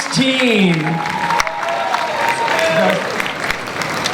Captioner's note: audience applause